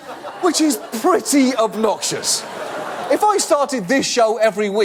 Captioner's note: audience laugh